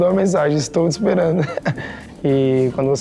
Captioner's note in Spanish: Ríe